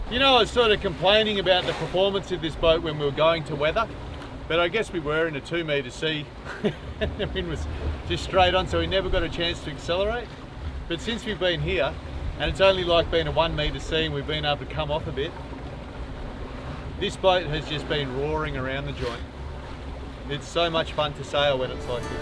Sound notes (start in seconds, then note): 6.5 laughs